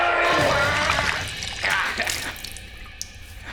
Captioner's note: Mick screaming; Mick gurgling